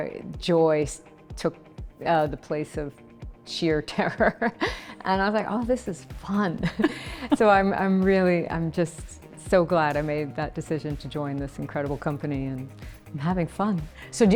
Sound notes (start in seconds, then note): 4.1 laughs; 6.6 laughing